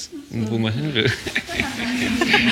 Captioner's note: laughter